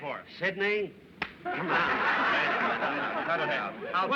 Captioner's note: laughter